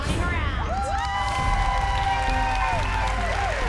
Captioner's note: cheering